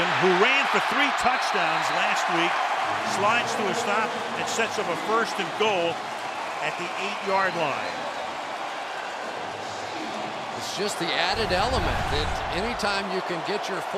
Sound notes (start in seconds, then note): 8.5 cheering